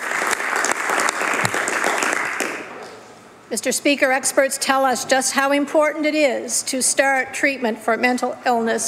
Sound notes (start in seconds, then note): 4.4 applause